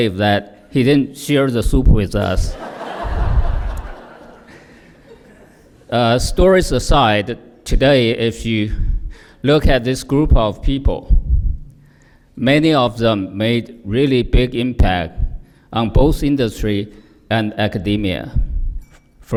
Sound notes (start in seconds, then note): 2.5 laughter